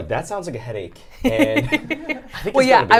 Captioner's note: laughs